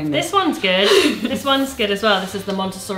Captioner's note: laughs